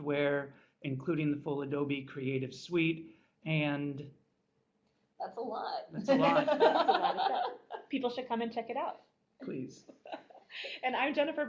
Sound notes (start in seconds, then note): 6.0 laughter